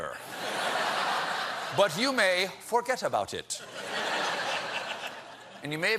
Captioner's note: laughter